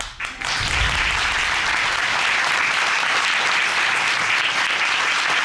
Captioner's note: audience applauding